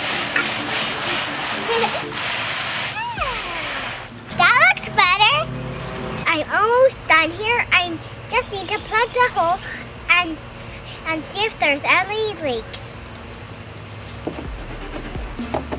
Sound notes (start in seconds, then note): 1.6 giggles